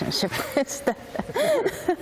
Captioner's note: laughter